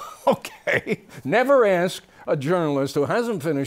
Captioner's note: laughter